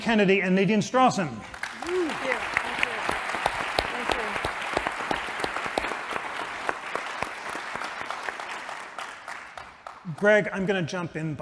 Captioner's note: applause